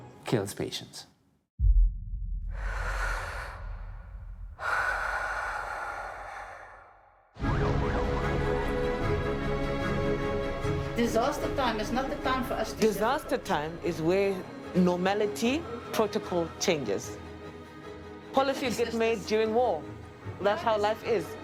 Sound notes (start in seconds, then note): 4.4 laborious breathing; 7.5 siren wailing